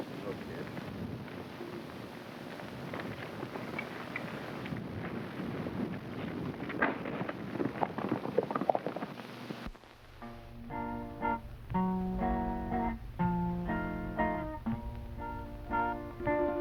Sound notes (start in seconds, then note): 6.8 hooves clopping; 10.2 pleasant guitar music